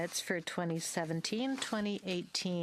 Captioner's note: speaking French